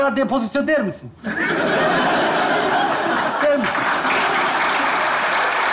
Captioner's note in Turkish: Kahkaha ve alkış sesleri